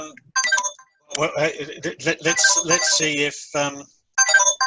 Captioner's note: phone ringing